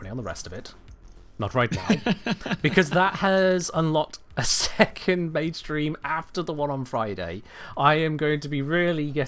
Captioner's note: laughs